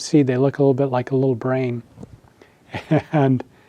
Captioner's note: laughs